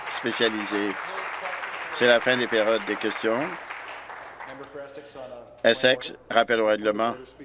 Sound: applause

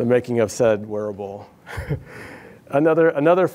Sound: laughs

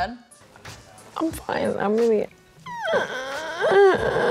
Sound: moaning

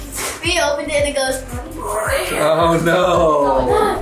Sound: whooshes

